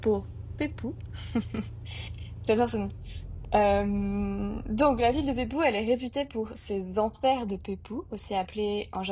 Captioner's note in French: rire